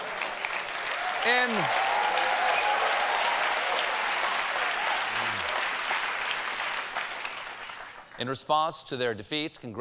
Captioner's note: cheers and applause